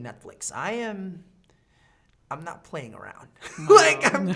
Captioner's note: laughing